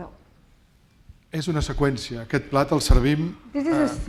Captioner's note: speaking spanish